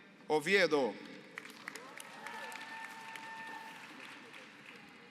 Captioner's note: applause